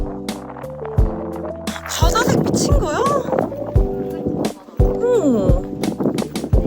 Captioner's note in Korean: 감탄중